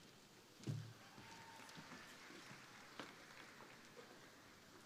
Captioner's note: crowd applauding